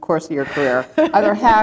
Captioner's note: laughter